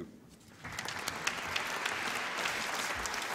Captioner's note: applause